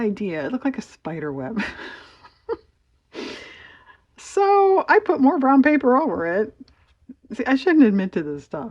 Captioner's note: laughs